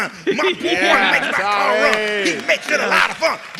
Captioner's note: cheers and applause